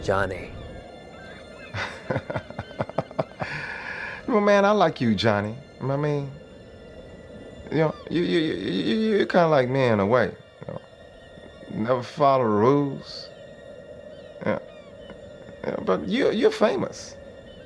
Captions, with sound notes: - Johnny. - (chuckles) You know man, I like you Johnny. I mean, (stutters) you, you, you, you, you, you're kind of like me in a way. You know, never follow the rules. Yeah, yeah, but you're, you're famous.